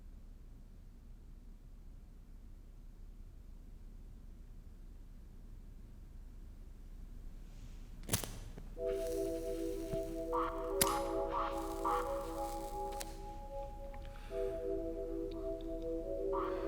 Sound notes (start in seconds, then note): 8.8 lighter clicks